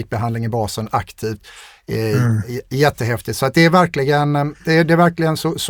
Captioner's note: clears throat